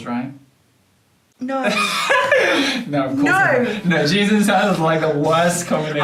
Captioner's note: laughter